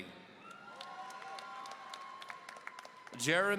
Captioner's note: audience cheering